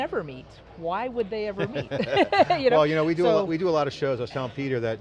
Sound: laugh

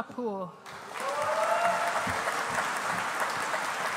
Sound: audience applauding

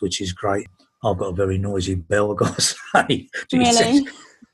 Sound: laughing

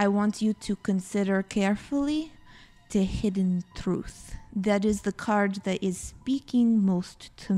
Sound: none

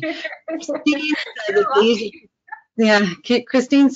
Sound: laughter

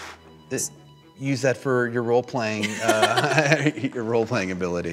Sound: laughs

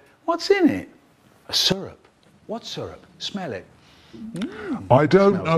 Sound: snoff

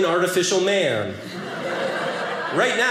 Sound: audience laughing

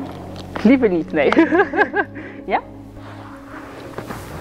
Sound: laughing

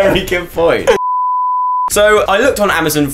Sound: beep

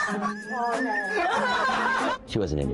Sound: all laughs

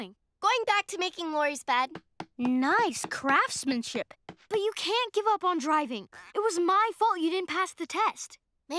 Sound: none

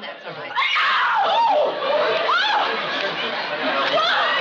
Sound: screaming

